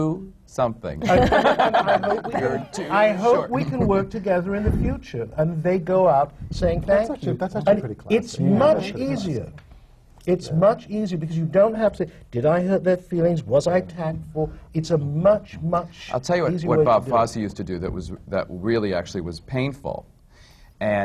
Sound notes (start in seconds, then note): 1.0 laughter